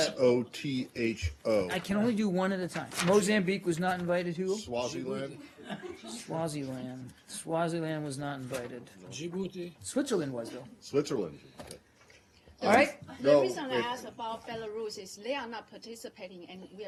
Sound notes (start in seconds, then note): 7.1 laughter